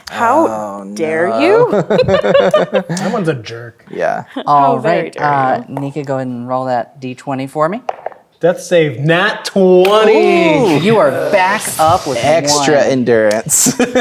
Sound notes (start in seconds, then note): 1.6 players laughing; 7.5 dice rolling; 13.5 laughing